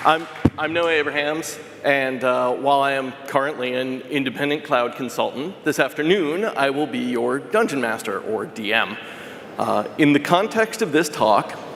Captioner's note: applause